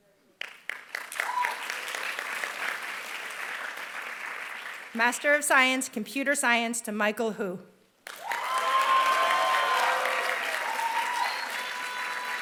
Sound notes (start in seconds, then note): 0.3 applause; 8.0 applause